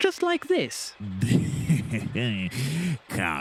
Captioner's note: Spamcan snorts